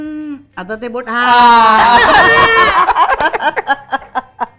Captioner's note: laughter